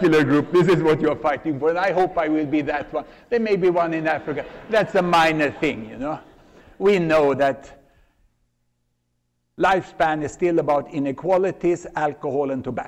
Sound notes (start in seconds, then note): 3.8 laughter